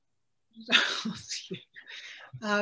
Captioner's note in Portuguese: risos